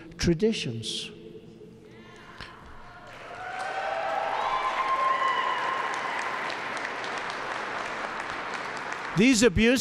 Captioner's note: applause